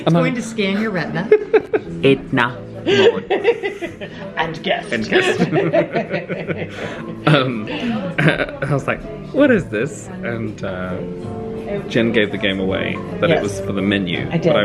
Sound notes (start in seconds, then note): 2.1 speaks foreign language in robotic voice; 4.9 both laugh